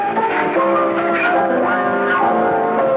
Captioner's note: laughing